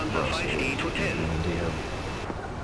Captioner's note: radio chatter